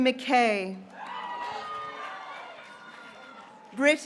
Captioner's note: graduates cheering